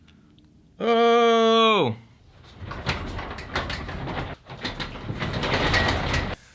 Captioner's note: garage door rattling